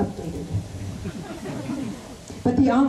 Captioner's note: laughter